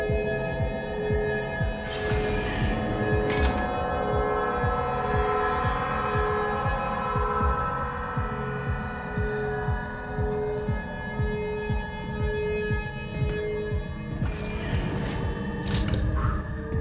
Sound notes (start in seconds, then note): 1.8 door opens; 4.6 music intensifies; 14.2 door closes